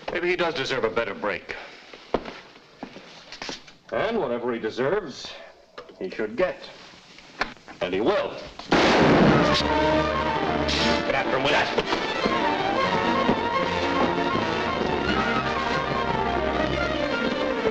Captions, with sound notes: Maybe he does deserve a better break. And whatever he deserves, he should get. And he will. (gun fires) (thrilling music) Get after him with that! (thrilling music)